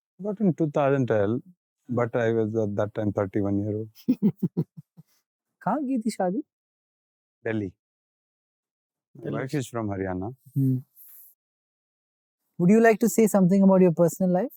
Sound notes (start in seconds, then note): 4.0 Kishore giggles